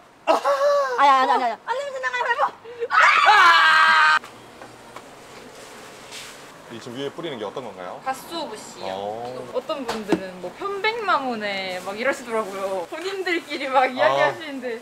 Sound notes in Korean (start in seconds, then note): 2.9 환호